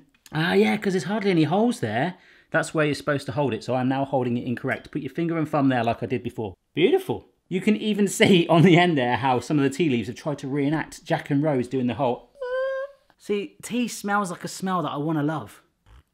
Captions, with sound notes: Oh, yeah, because there's hardly any holes there. That's where you're supposed to hold it, so I'm now holding it incorrect but you finger from there like I did before. Beautiful! You can even see, on the end there, how some of the tea leaves have tried to re-enact Jack and Rose doing the whole-- (sighing) See, tea smells like a smell that I want to love.